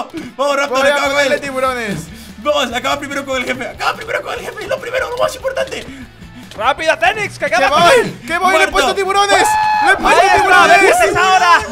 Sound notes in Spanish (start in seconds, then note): 7.5 Grita